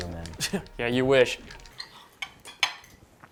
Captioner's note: scoffs